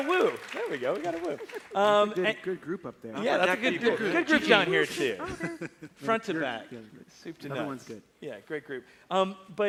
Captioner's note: applause